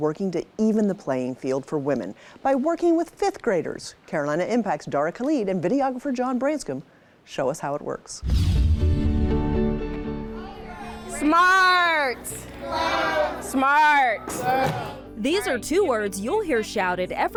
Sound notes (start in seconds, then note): 8.4 bright music; 8.4 light swooshes